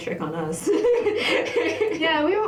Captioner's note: laughter